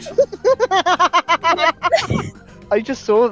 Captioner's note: laughter